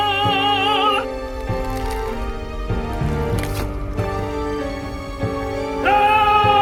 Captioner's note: ice cracks